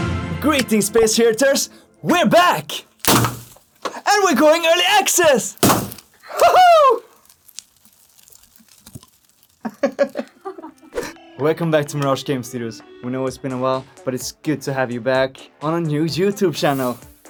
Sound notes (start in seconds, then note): 2.9 boom; 5.6 boom; 9.6 laughter